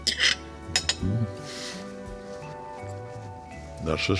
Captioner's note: fork clinking; lighthearted music